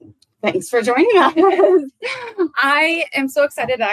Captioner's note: laugh